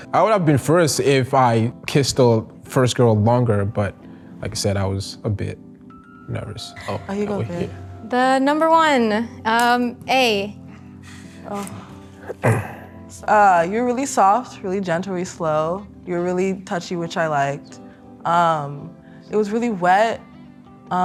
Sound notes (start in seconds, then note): 12.2 clearing throat